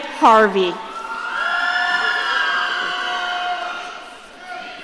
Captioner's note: audience cheering